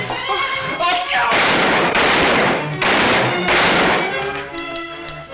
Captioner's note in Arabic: موسيقى أوركسترالية متوترة; طلقات نارية